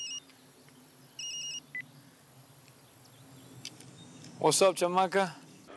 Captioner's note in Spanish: Suena el celular